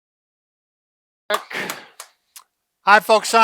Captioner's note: clapping